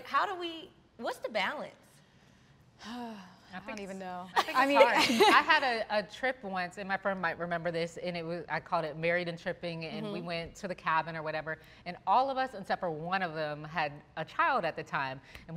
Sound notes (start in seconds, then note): 2.8 sighs; 4.4 laugh